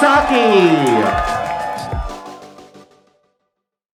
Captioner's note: cheering